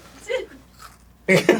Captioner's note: forced crunch